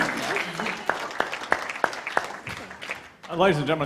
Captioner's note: applause